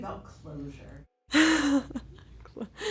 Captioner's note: laughs